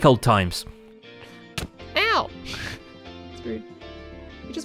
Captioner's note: smacks